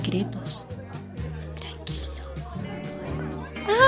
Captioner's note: whispers